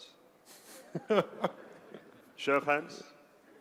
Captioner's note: laugh